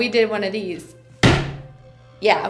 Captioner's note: hand slamming on desk